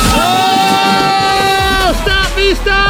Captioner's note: cheering